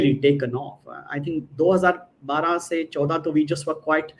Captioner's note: non-english speech